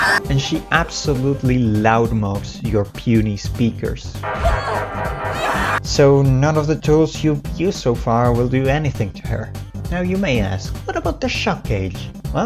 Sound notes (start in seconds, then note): 0.0 the roaring; 4.3 the roaring; 5.0 beeep beeep beeep beep